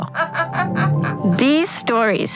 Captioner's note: laughing